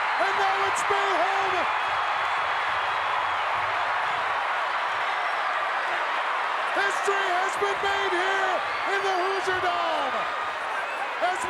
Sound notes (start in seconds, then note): 2.8 crowd cheers and whistle